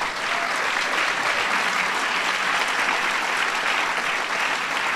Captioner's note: applause